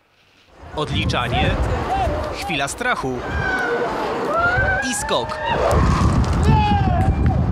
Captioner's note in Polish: okrzyki i brawa